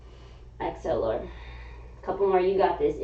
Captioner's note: exhaling